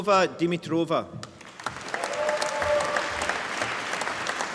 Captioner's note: applause